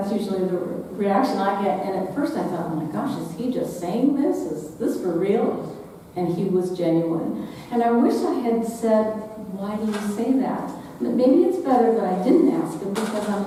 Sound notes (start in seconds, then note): none